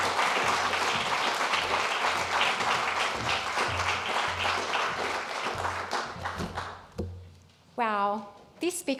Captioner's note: applause